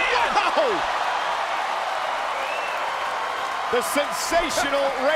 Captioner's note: crowd cheering